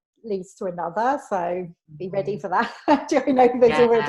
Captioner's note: laughs